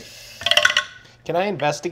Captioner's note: dice clatter